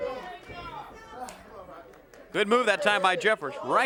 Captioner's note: crowd chatter